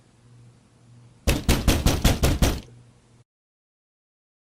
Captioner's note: loud banging on door